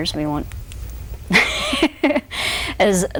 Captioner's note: laughs